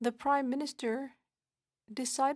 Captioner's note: speaking French